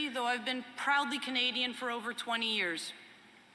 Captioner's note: none